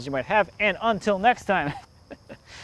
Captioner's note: laughs